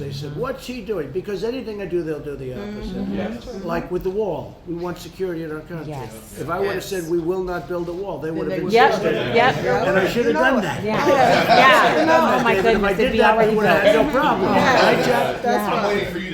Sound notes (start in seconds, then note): 11.6 laughter